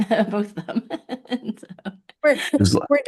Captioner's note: laughing